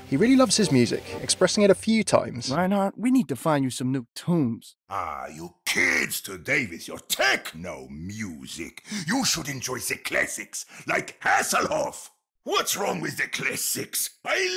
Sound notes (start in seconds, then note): 2.7 voiceover